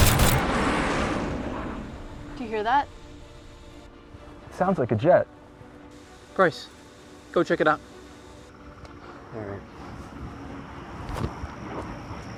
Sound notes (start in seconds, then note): 0.0 jets, gunfire and explosions; 0.2 sound of plane in sky; 9.2 adventurous orchestral music begins